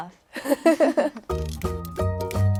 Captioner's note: laughs